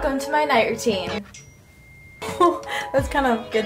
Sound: message notification

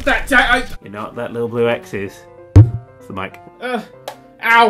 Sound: taps

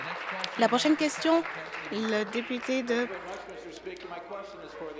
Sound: applause

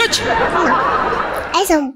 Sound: laughter

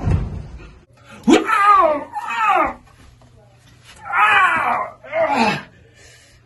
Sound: Easton gets stabbed, screams in pain

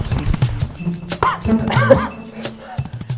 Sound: coughing

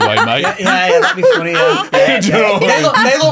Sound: laughing

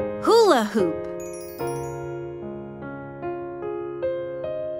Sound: bell chimes

